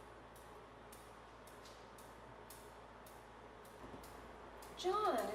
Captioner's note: rhythmic tapping